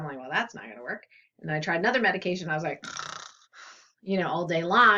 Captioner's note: snores